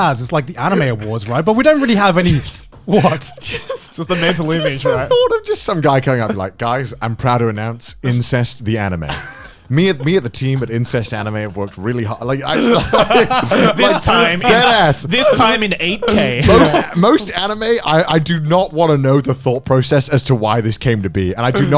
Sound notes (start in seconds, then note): 2.9 laughing